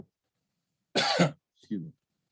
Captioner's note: coughs